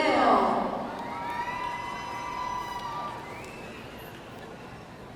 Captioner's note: audience cheering